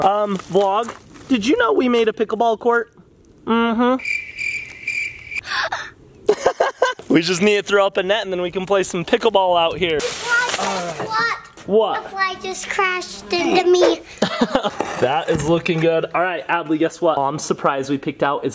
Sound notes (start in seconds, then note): 3.8 crickets chirping; 5.4 gasps; 6.3 laughing; 13.3 laughs